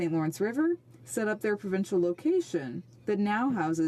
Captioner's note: speaking French